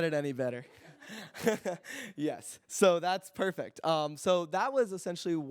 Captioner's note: laughs